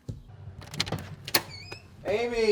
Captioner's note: la puerta hace clic y cruje